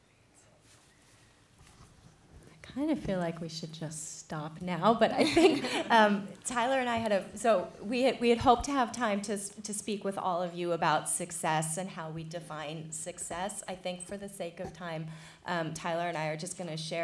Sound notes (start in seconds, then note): 5.2 laughter